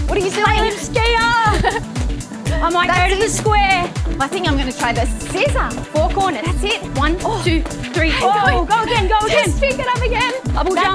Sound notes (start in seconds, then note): 1.2 laughs